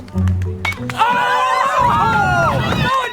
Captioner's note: crowd cheering